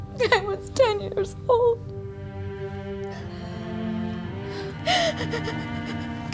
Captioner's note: sobs